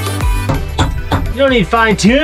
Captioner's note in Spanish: ruido de martillo